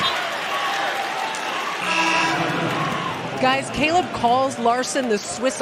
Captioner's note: buzzer